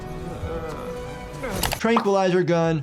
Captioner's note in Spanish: Sonic gruñe